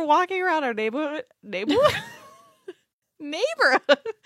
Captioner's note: laughs